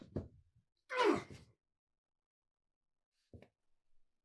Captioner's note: Doc groaning